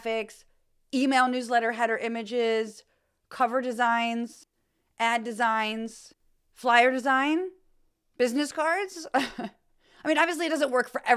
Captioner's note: laugh